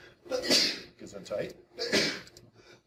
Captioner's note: student sneezing; student sneezing several times